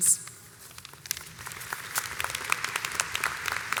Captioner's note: audience applauds